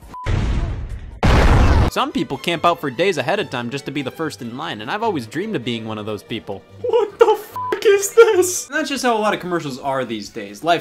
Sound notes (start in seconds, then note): 0.0 beep; 0.2 explosion; 7.5 beep